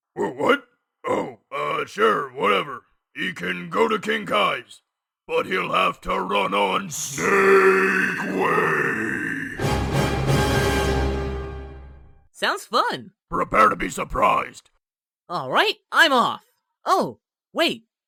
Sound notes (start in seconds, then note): 6.8 booming echo; 9.6 dramatic sting